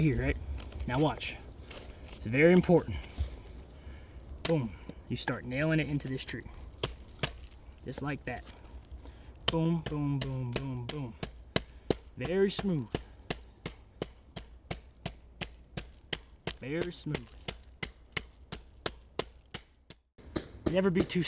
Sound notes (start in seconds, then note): 8.0 hammer tapping; 13.1 hammer tapping